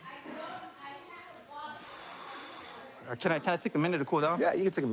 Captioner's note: exhales